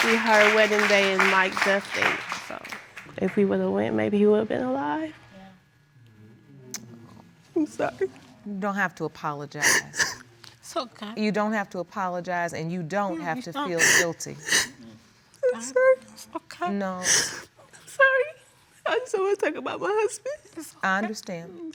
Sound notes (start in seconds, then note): 9.6 sobbing